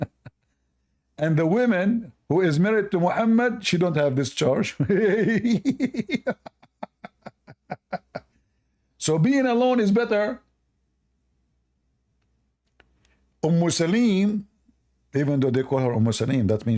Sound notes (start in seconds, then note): 4.7 Ketawa